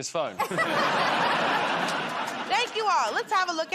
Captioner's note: laughter